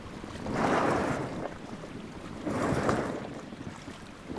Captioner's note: water splashing